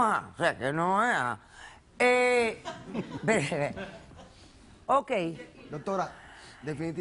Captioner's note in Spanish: Risas del público